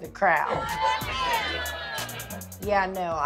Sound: crowd members call out

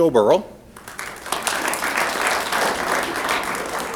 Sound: applause

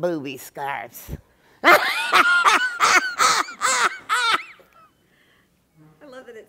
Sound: laughter

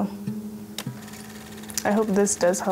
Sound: film reel clicking

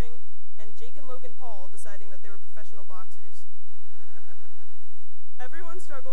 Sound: laughter

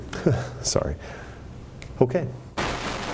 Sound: laughing; static

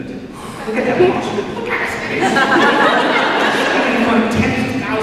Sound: deep breath

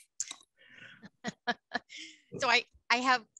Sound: laughs

